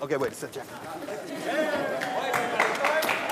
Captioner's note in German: Jubel, Applaus